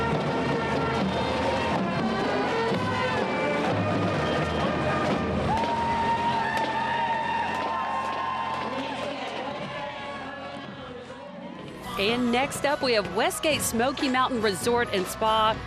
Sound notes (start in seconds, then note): 6.5 cheers; 10.6 background music; 11.6 holiday music